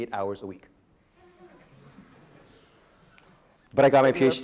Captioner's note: audience laughing